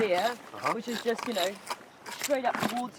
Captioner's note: trowels scraping